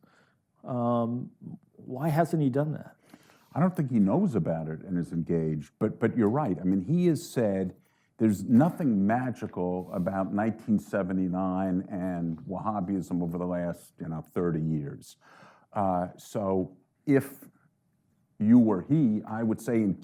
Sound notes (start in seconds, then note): none